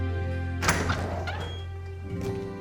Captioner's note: door opens